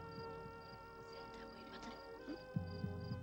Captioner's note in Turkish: fısıldayarak